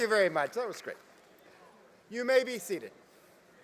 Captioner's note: applause